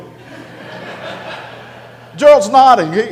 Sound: audience laughter

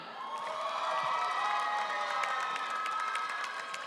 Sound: audience cheering

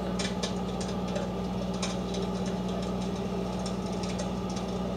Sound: flames crackling

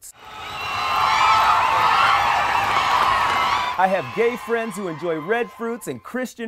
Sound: crowd cheering

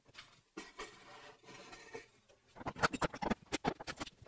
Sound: metal clinking

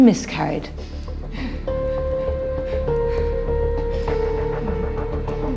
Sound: Anne whimpers and sobs

